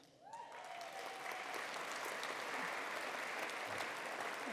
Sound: attendees applauding

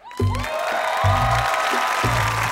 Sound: cheering

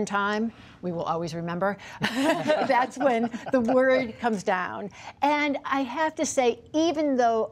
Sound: laughter

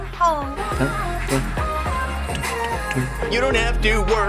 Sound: humming along

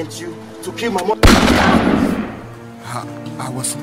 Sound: gun fires

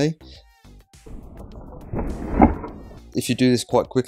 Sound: slow motion sound

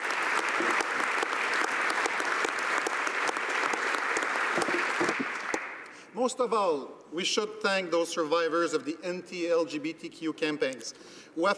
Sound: applause

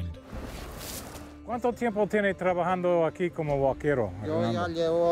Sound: both speaking Spanish

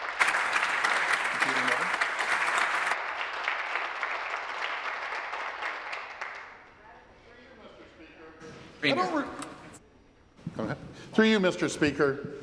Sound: applause

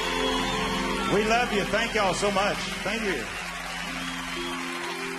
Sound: audience cheering

